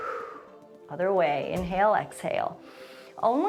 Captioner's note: exhales; inhales